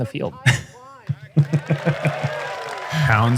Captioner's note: chuckles